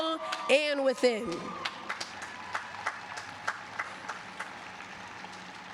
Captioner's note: applause